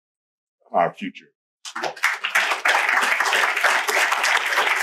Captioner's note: applause